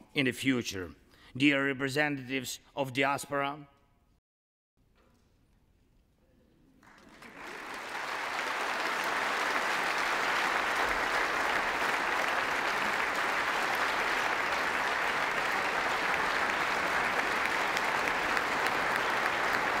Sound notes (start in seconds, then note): 8.9 applause